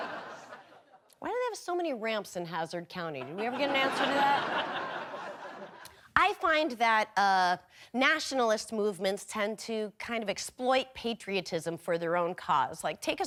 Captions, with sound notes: (audience laughing) Why do they have so many ramps in Hazzard County? Did we ever get an answer to that? (audience laughing) I find that nationalist movements tend to kind of exploit patriotism for their own cause.